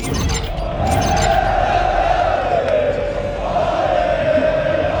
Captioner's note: crowd chanting indistinctly